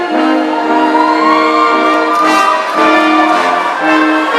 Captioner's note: audience cheering